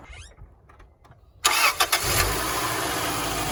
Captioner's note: car starting